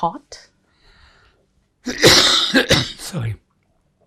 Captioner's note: coughing